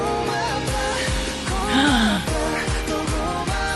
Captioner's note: gasp